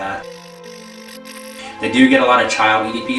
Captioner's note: static fizzing